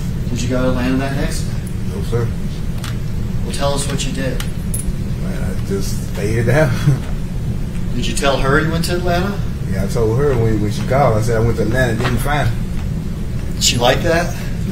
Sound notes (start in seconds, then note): 6.5 chuckles